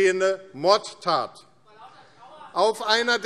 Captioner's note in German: Zurufe DIE LINKE